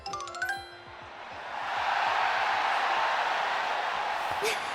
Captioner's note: cheers~~~!!!!